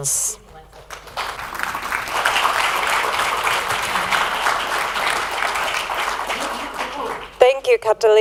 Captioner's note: applause